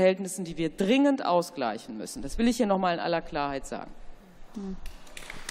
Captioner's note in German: Beifall